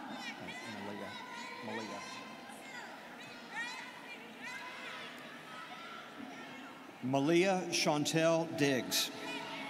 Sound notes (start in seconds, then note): 1.2 students cheering